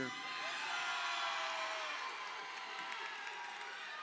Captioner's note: crowd cheering